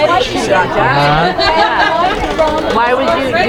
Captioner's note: people chattering